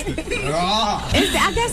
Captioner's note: laughing